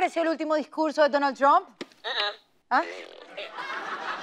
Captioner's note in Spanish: Pedorreta